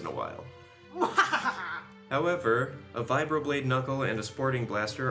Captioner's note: diabolical laugh